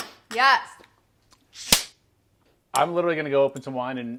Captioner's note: slaps